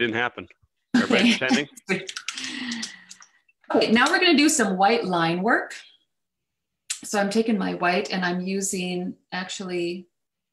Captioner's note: laughs